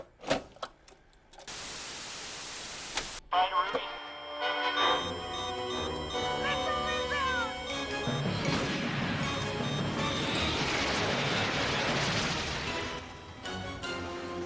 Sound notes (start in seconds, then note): 0.1 tape whirs; 1.5 TV static buzzes; 3.8 tense music; 4.8 alert beeping; 8.3 jet roars; 8.6 tense music